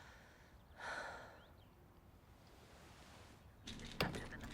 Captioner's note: Bryn exhales sharply